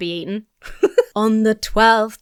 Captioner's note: giggles